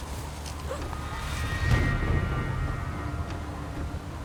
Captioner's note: sobs